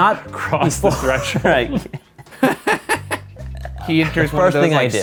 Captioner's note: laugh loudly